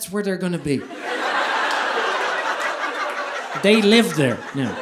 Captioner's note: audience laughing